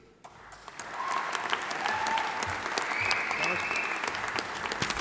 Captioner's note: audience applauding; audience cheering